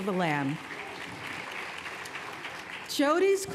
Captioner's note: applause